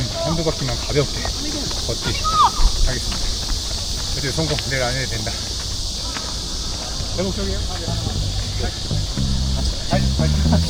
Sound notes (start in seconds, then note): 6.7 laughs